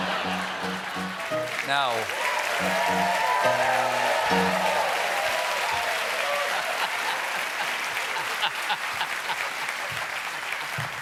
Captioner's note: cheers and applause; laughter